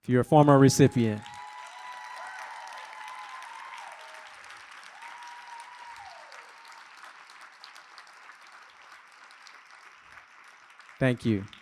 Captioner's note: applause